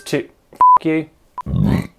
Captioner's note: phone beeps; burp